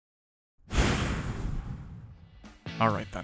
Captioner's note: blowy sigh